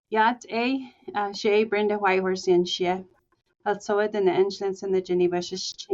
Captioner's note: speaking in foreign language